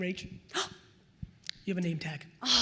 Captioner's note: gasps